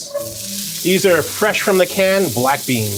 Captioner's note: pan sizzling